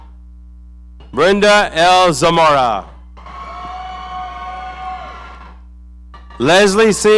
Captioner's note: audience cheering